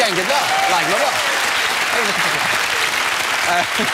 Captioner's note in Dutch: applaus